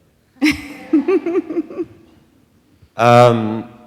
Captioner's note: laughs